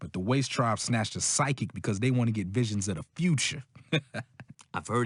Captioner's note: chuckles